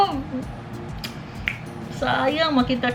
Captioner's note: snap